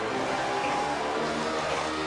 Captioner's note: cheers & applause